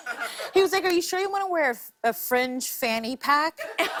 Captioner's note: laughter